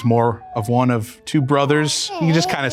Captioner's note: baby cooing